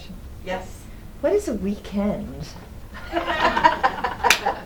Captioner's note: laughter